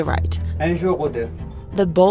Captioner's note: mechanic speaking in foreign language